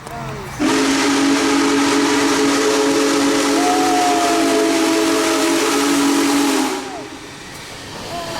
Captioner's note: big boy whistle